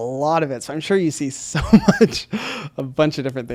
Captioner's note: laughs